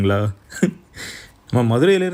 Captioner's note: laughs